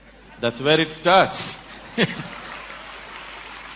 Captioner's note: applause